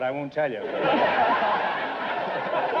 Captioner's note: audience laughter